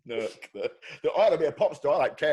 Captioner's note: chuckling